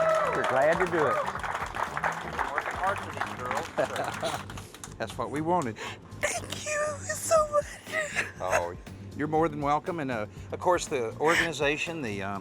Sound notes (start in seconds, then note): 0.0 cheers and applause; 3.6 chuckles; 7.5 crying